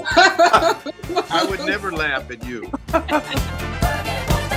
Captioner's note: laughing